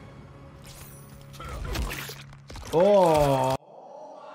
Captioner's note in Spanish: la sangre chapotea; el personaje gruñe